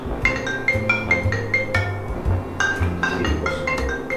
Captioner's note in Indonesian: Telepon bunyi